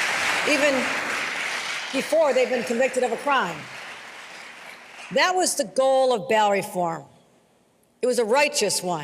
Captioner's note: applause